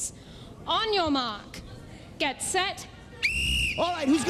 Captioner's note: whistle blows